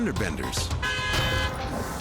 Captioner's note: car horn blares